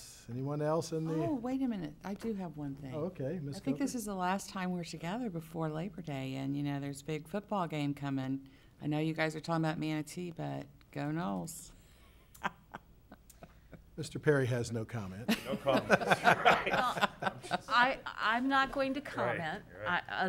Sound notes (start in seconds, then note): 11.4 people chuckling; 17.0 people laughing